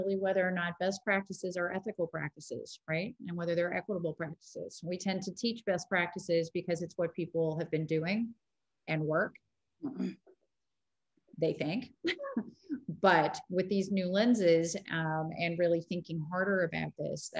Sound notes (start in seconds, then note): 9.9 clearing throat; 12.0 giggling